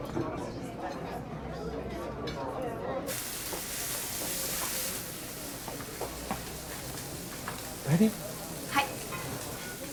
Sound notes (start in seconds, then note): 3.0 sizzling